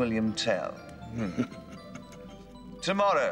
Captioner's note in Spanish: Zadrim riéndose